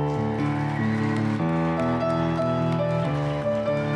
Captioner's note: applause